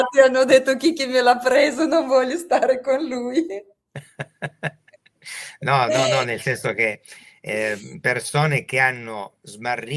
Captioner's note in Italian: risate